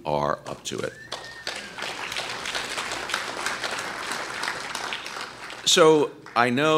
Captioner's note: applause